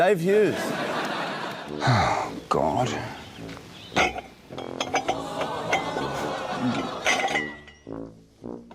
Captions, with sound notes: It's Dave Hughes. Oh, God. (MUGS CLATTER)